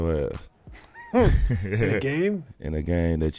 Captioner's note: laughs